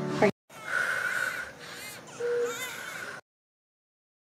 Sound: crying continues; baby crying

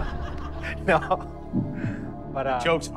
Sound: laughing; laughs

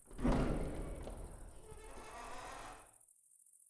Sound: door creaking

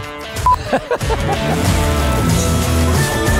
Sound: laughing; upbeat music

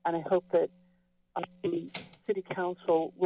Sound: door closes

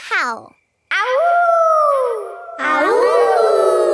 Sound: howling; kids howling

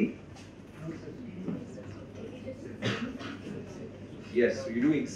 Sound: crowd murmurs

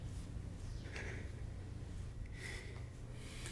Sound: breathing shakily

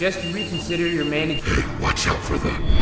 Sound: beeping

